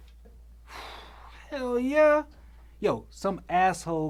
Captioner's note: sighs